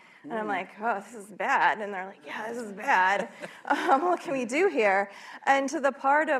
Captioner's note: laughter